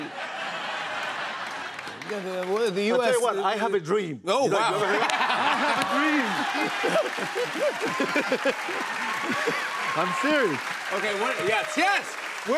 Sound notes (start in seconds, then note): 0.0 laughter; 6.6 laughter